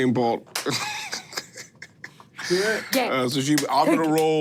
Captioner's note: chuckles